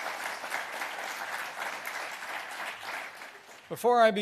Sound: applause

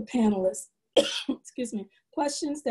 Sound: coughs

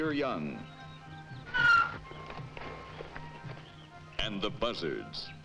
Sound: animal squeals

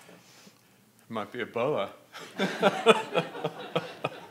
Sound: laughs

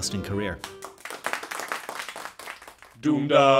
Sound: applause

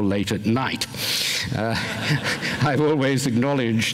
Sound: laughter

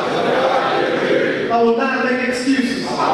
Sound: audience speaking

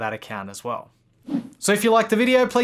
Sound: whooshing

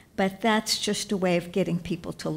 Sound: none

